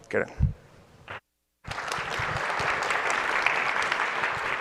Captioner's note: applause